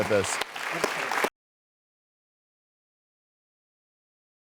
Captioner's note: audience applauds